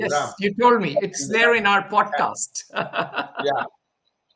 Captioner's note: laughs